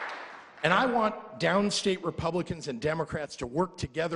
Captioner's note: applause